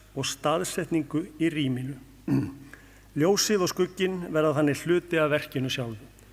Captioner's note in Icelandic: ræskir sig